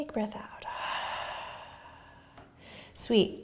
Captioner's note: exhaling